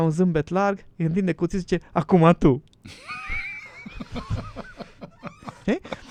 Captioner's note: laughter